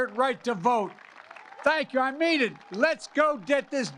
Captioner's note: applause